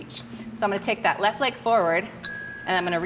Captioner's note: bell rings